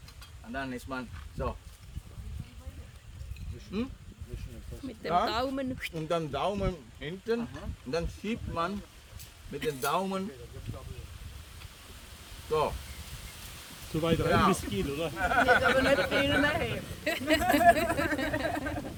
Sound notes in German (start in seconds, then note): 17.2 Gelächter